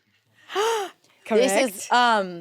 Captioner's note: gasps